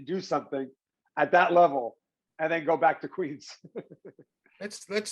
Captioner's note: laughs